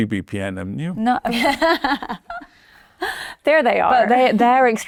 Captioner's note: chuckles